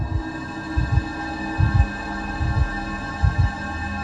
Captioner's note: heart beating